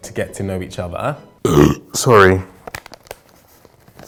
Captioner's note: burps